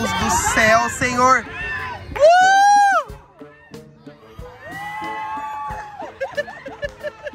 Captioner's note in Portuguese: gritos; risos